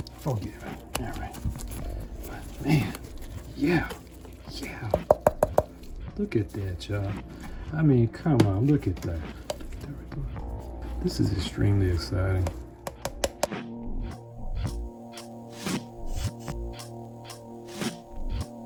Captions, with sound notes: Forgive me, all right. Man, yeah, yeah. (knocking) Look at that job. I mean, come on, look at that. This is extremely exciting. (upbeat music)